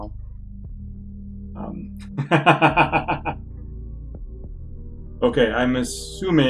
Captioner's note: laughs